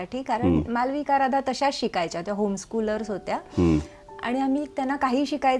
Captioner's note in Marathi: घसा साफ करणे